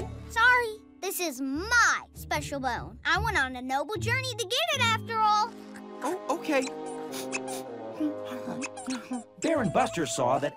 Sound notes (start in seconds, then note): 6.5 squeaking; 8.0 whimpering